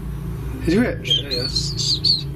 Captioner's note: whistling